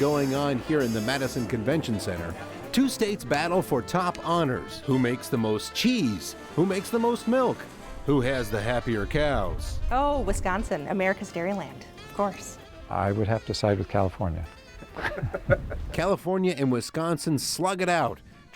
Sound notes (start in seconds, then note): 14.9 laughter